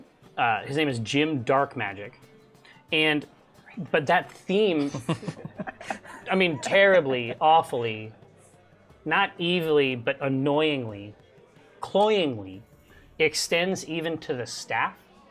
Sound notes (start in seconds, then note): 3.8 whispers; 4.8 laughter